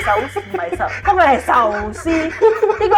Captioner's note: Cantonese